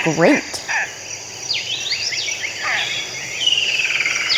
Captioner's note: birds chirping